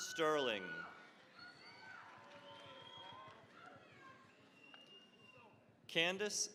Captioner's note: cheering, applause